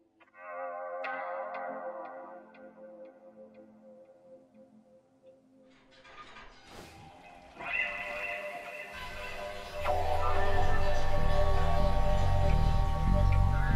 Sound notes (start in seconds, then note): 5.8 metal pinging noises; 9.6 pipes rattle